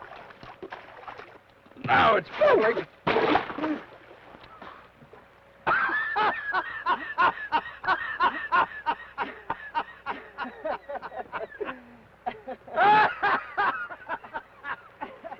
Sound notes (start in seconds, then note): 3.2 water splashes; 5.7 laughs